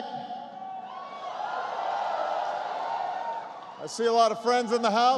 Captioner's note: applause